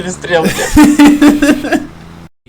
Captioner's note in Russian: Смех